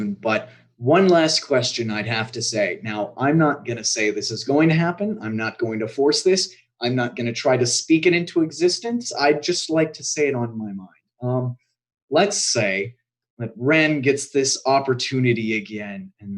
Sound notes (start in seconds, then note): none